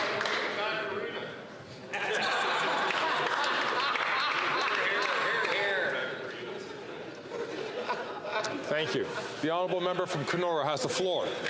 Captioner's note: some Applause